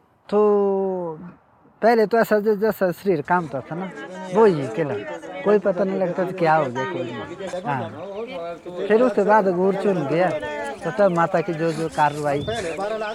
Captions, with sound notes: Initially, when I used to get the possession my whole body used to shake. And I could not understand what was happening. (indistinct conversation) Yes, But now Devi guides me and tells me what to do.